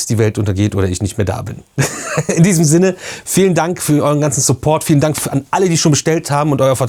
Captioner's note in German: gelächter